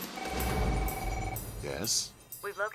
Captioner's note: phone ringing